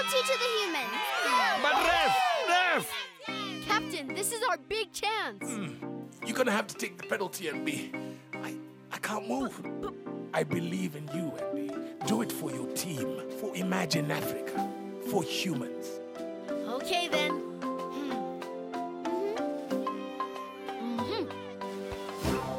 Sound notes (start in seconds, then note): 4.1 moaning; 20.3 dramatic music